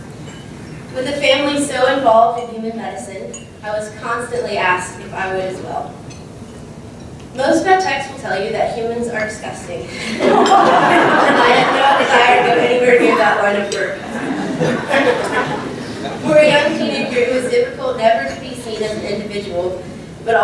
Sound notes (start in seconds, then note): 12.6 laugh